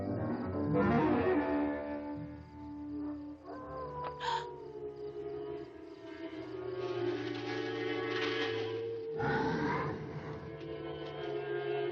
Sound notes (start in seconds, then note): 0.1 dramatic music; 4.2 Mary gasps; 6.3 branches rustling; 9.1 growling